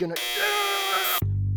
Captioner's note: beeping